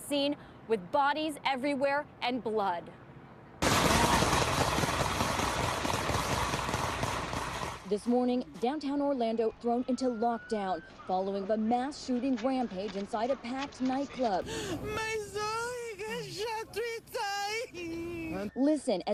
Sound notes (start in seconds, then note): 8.1 gunfire